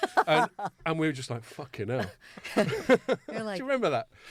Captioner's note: laughing